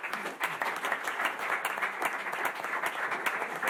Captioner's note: applause